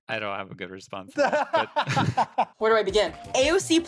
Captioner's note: laughter